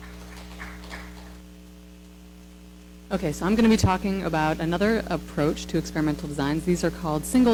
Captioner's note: applause